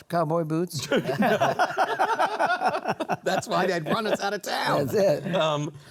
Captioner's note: laughter